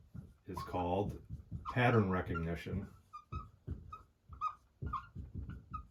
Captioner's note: marker squeaking